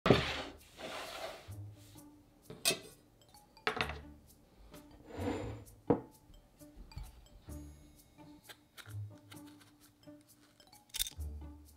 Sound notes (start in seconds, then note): 0.0 board sliding